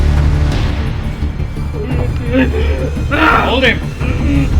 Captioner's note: crowd yells